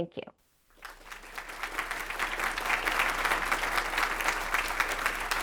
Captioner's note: crowd applauding